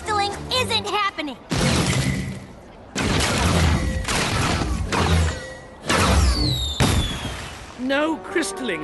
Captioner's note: explosions